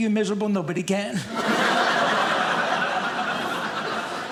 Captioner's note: audience laughing